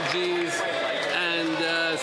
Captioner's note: some Applause